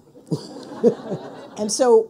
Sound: people laughing

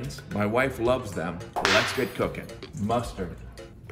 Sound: whip cracking

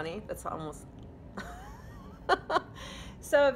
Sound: chuckling

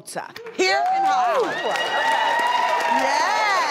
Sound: crowd clapping

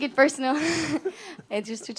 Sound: laughter

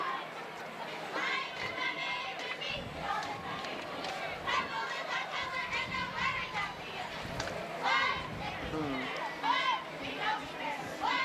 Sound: cheering

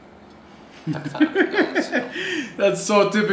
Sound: foreign language; laughs

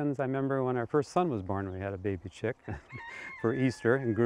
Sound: chuckles

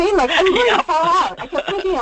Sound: laughter

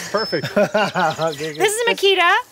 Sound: laughing

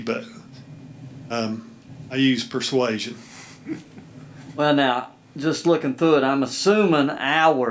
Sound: laughing

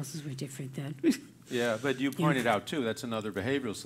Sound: laugh

